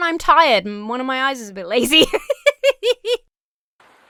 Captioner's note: Emma laughs